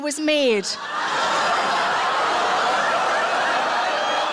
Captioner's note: audience laughs